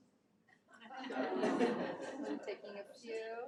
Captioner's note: attendees laugh